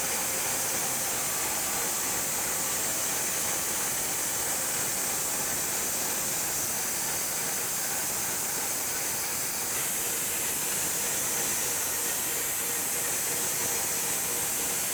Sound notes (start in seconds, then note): 9.0 saw humming continues